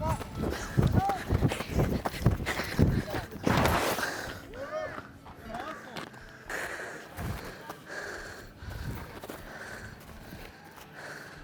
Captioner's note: baseball running and sliding